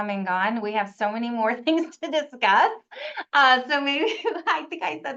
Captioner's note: chuckles